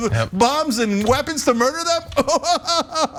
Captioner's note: laugh